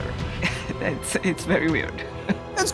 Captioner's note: laughing